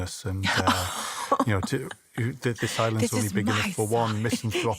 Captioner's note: laughs